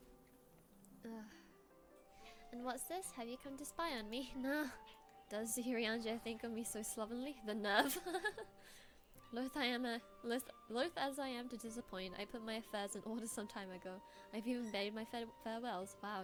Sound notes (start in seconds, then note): 7.8 laughs